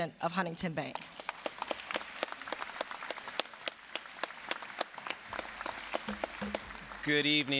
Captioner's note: applause